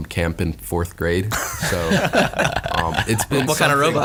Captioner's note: all laugh